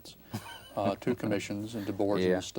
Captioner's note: laughs